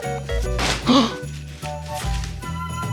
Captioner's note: crashing noise; gasps